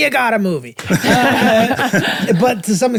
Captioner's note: group laughing